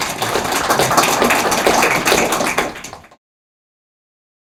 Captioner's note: audience applauding